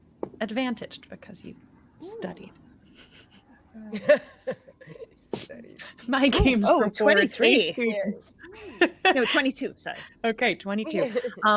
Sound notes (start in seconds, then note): 5.3 cast members giggling